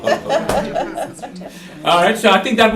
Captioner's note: laughter